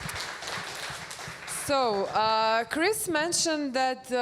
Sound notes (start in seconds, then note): 0.0 applause